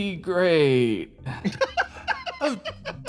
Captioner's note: laugh